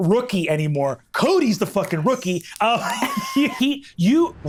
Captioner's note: laughs